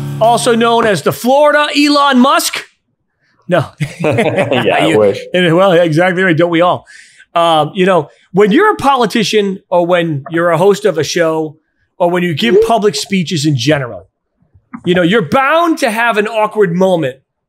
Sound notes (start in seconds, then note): 3.8 both laughing